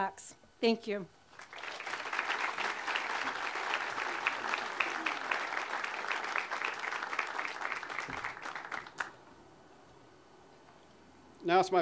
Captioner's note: audience applause